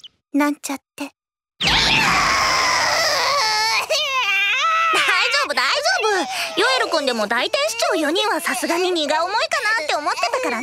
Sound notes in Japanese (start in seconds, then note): 3.4 ヨエルの泣き声